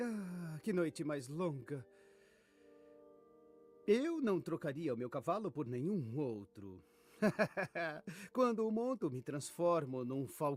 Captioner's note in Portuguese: risadas